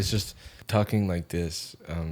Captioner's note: lowers voice